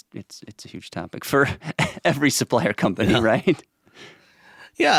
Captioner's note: laughs